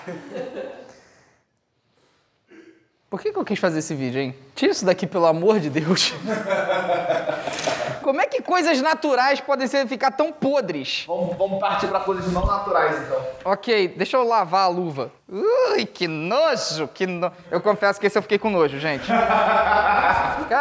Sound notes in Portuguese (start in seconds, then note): 0.0 risadas; 6.2 risadas; 19.0 risadas